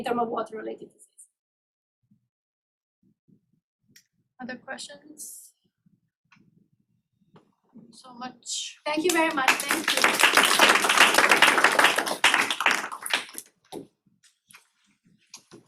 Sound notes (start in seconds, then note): 9.0 applause